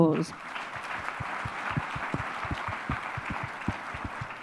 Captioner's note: audience applause